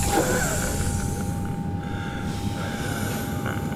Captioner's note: deep breathing